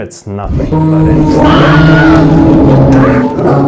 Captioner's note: loud Howling Roar; scream